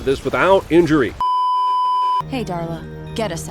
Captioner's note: beeeeeeeeeeeep